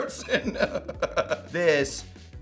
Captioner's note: Adam laughs